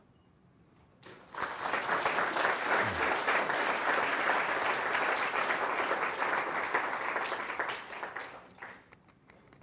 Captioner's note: applause